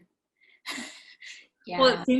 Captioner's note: chuckling